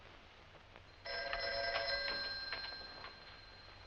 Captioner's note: phone ringing